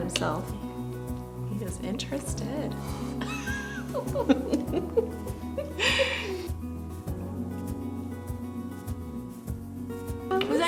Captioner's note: laughter